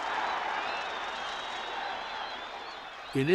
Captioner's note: crowd cheering